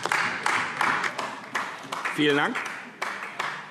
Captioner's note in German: Beifall AfD